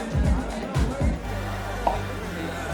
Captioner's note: mouth popping